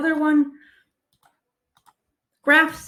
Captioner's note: keyboard clicking; mouse clicking